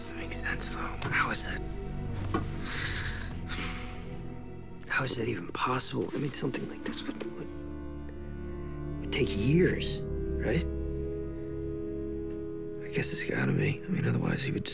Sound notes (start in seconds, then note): 2.6 sighs